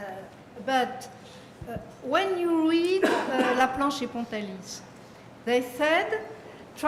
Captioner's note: french